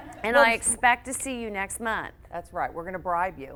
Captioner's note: audience laughs